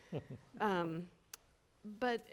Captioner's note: panelist chuckles